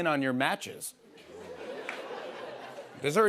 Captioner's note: laughter